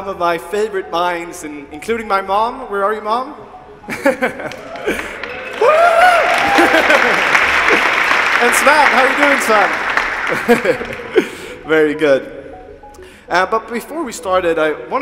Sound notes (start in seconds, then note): 3.9 chuckling; 4.5 audience cheering; 10.4 chuckling